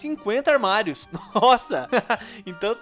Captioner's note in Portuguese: risos